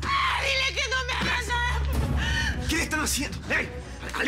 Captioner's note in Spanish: Gritos